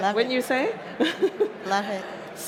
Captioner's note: laughs